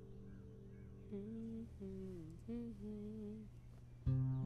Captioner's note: Jannat humming